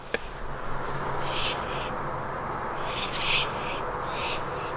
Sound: screeching

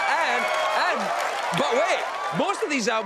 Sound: cheers and applause

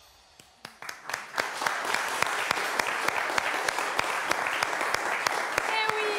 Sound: applauds

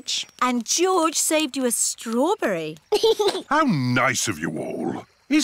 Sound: giggles

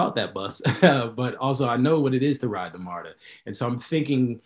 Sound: laughs

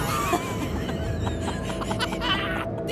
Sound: both Laughs

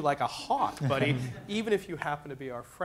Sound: laughter

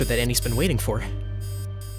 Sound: beeping

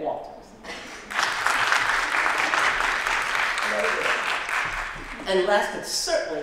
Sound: applause

